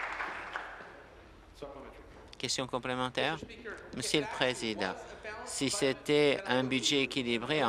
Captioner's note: applause